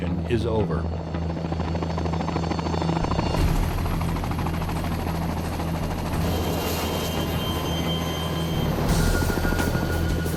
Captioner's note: sound of helicopter rotors